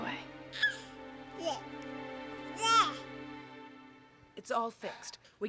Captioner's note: baby cooing